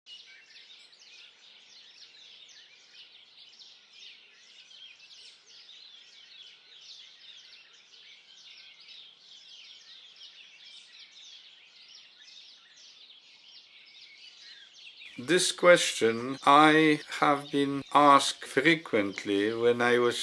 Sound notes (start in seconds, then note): 0.1 birdsong